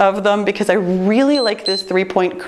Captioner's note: timer beeps